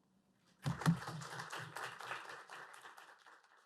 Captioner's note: applause